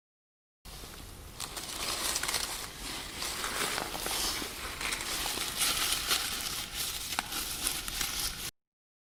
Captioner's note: rustling sounds